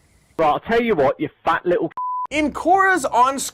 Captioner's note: beep